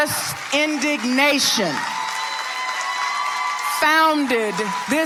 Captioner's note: audience applauding